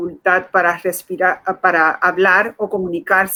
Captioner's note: speaking in Foreign Language